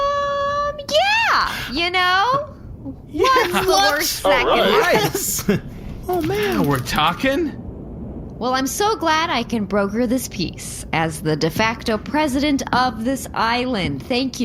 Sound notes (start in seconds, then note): 3.1 excited; 6.3 happily